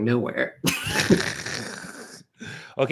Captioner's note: laughter